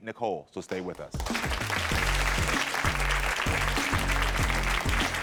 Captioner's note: audience cheers